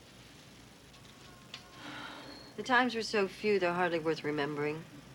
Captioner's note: sighs